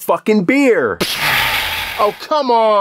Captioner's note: pshaaa!